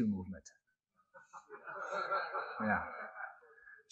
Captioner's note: laughter